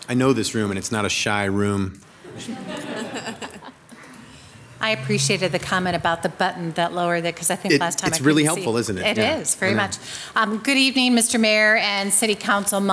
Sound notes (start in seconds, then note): 2.2 people laugh